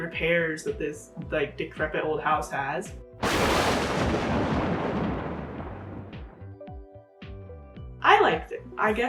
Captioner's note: thunder clap